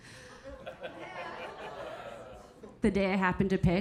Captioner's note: audience laughing